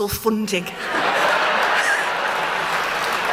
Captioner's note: laughter